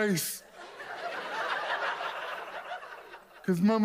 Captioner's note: audience laughs